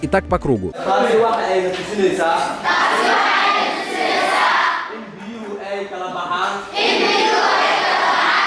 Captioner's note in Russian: говорят на сомалийском